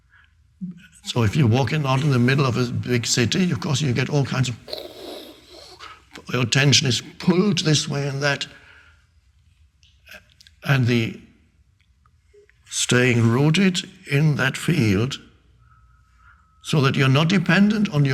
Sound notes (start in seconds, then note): 4.8 Eckhart imitating whooshing sound